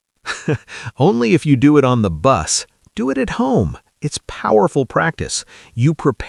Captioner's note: laughs